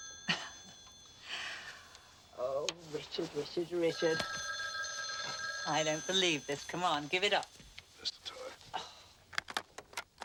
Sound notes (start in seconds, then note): 3.9 ring